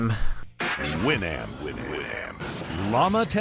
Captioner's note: Winamp opening demo